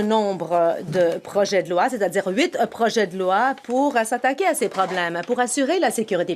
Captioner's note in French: voix de l'interprète